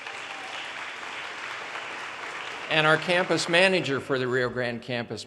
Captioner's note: audience cheers and applause